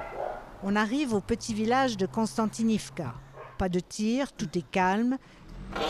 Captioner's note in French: aieiements au loin